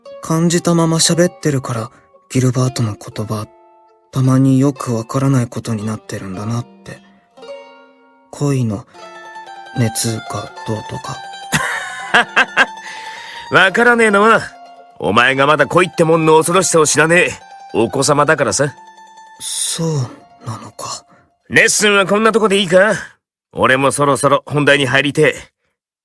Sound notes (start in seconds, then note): 11.5 laughs